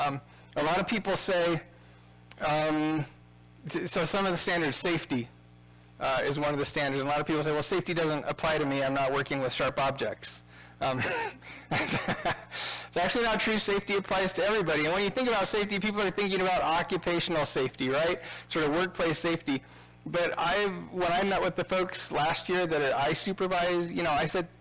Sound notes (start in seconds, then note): 10.9 laughing